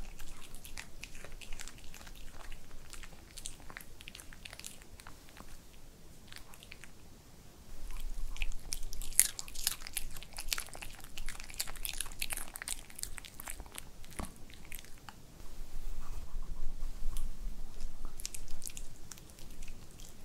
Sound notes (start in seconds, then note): 0.0 chews thoroughly; 4.2 swallows